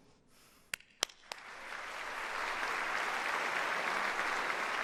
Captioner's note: audience applauds